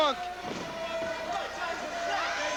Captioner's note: crowd cheering